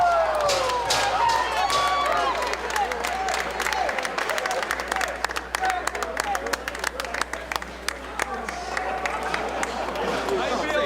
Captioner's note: applause